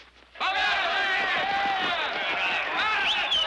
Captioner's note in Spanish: bullicio